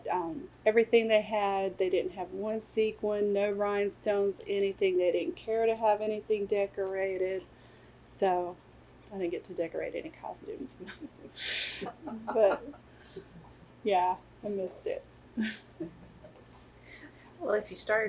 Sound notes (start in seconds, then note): 11.8 laughter